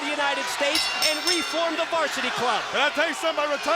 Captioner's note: bell rings